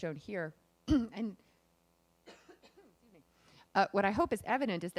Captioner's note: clears throat